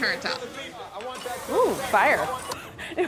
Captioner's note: sizzling